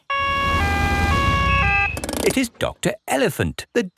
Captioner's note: siren wails